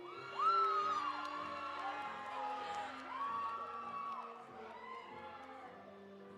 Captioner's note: audience cheering; audience applauding